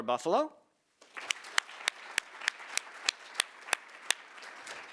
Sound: audience applauding

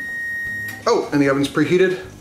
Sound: loud beep

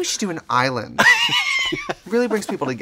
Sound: laughing

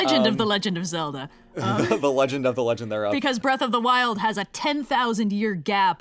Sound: laughs

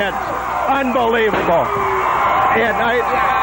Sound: players and crowd cheer

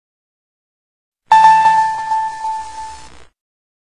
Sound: 64-bit game sounds

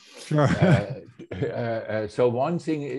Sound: chuckles

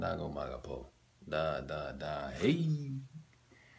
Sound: macedonian

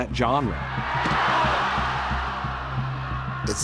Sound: crowd shouting

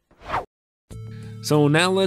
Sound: whoosh

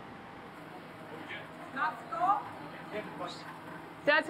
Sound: speaking Greek

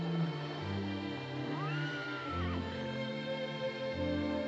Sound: horse neighs

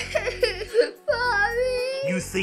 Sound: sobbing

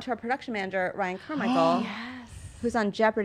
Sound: gasps

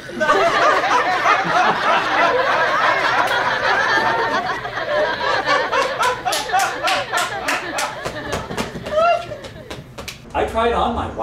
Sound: laughter

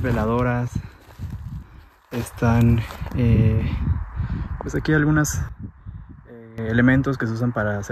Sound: steps

